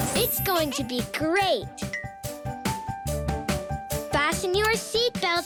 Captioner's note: tinkling noises